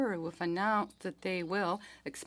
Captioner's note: speaking French